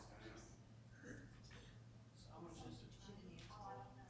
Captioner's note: people murmuring